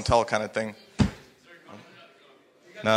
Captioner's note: speaking faintly